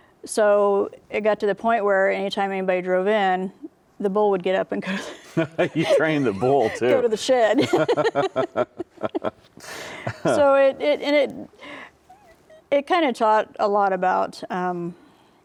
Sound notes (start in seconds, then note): 5.0 laughs; 8.5 both laugh